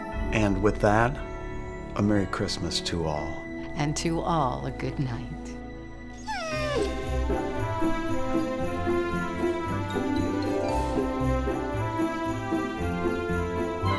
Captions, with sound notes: - And with that, a Merry Christmas to all. - And to all a good night. (dog whines) (bright holiday music)